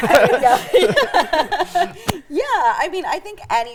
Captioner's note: all laughing